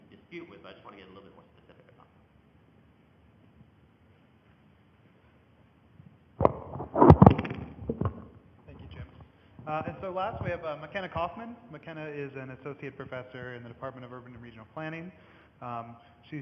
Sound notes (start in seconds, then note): 6.3 microphone noise